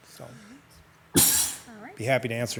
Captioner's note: commissioner sneezes